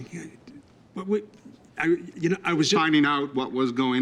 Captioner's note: stammering